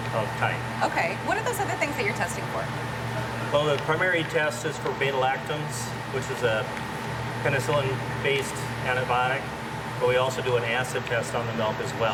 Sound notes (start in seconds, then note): none